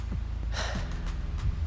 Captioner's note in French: soupir